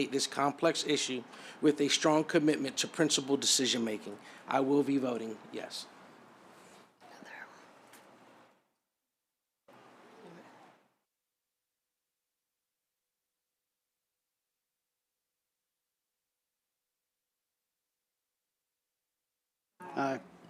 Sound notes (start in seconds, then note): 6.2 silence